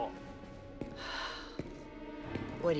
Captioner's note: sighs